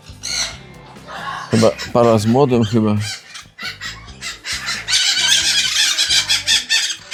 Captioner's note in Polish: śmiech